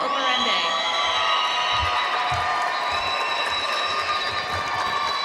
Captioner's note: audience screaming and applauding